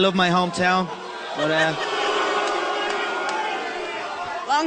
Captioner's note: crowd booing